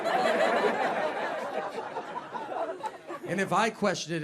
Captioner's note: audience laughs